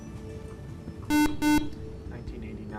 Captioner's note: buzzer